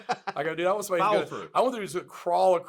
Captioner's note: laughs